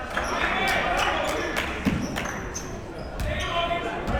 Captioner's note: clapping